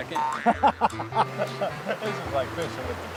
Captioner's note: laughs